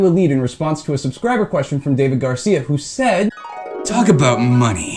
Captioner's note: dream ripple, harp noise